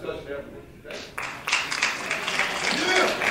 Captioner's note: audience applauding